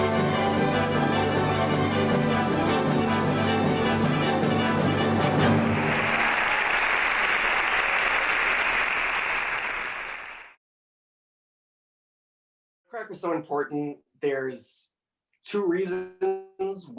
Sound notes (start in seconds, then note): 5.9 audience applauding